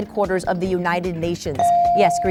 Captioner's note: bell dings